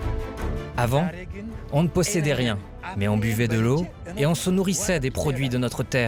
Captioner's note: farmer speaking foreign language